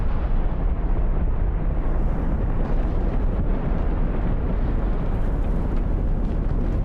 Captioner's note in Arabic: صوت انفجار